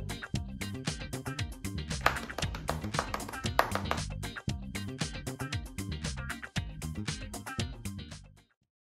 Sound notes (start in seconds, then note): 2.0 clapping; 4.5 instrumental pop music